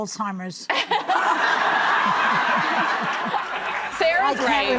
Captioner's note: audience laughing